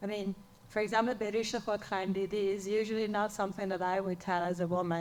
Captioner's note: speaks in foreign language